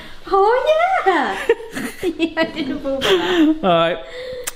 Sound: laughing

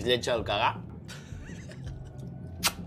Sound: laughs

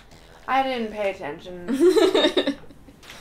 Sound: laughter

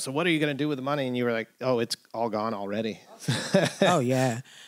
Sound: laughter

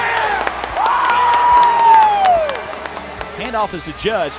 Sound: cheering and clapping

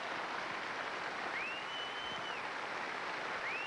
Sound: whistles loudly

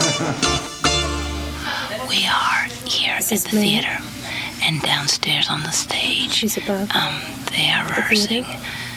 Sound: whispering

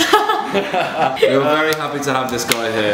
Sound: laughs

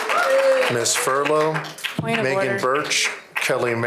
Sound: applause

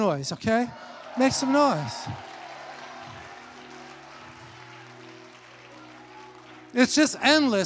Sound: congregation cheers

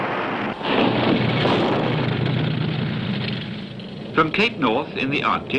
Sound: building rumbling

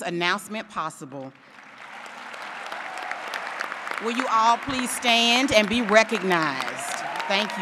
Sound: applause

